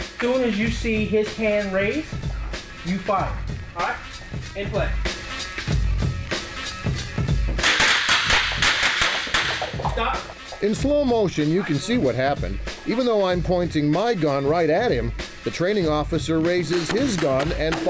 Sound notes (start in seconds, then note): 7.6 guns firing